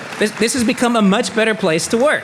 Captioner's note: audience applauding